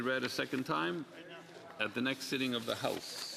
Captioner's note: speaking French